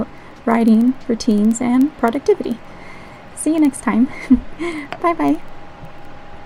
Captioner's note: laugh